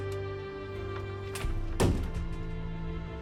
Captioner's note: door slams